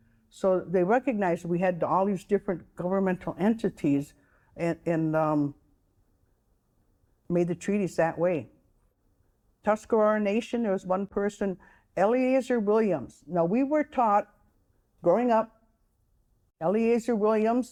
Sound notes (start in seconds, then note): none